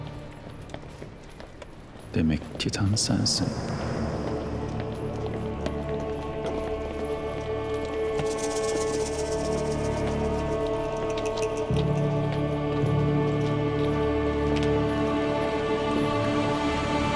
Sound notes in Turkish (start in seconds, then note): 4.0 Ayak sesleri; 4.0 Müzik - Gerilim